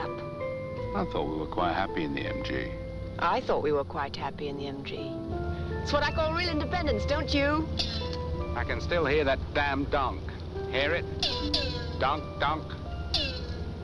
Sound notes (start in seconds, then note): 7.5 engine Twanging; 10.2 twanging Continues